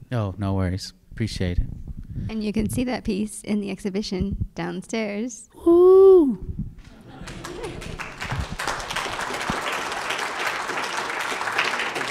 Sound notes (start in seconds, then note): 6.8 audience clapping